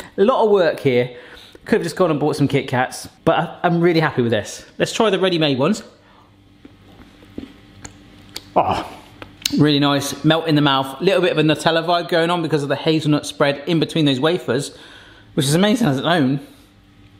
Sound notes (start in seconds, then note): none